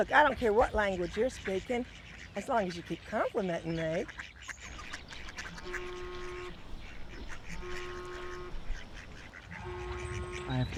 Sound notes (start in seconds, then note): 5.6 phone buzzing